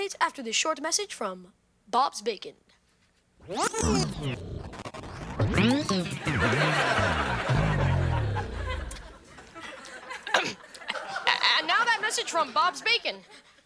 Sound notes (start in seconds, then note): 3.4 tape jams; 5.9 audience laughing; 9.7 Ethan clears throat